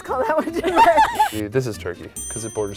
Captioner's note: laughing